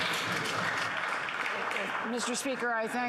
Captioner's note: applause